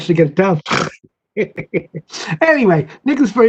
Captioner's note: laughter